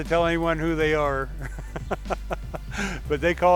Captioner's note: laughing